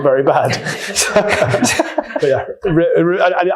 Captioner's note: attendees laughing